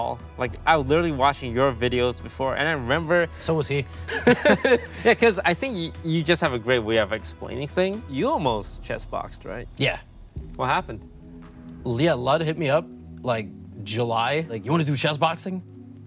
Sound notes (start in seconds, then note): 4.1 laughs